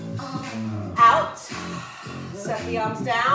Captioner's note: breath